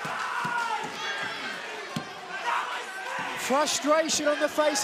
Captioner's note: crowd chatter